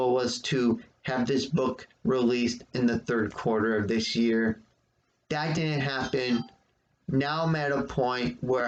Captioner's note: ping of phone